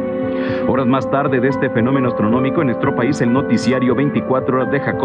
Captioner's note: mysterious music; speaking in foreign language